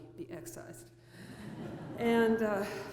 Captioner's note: laughter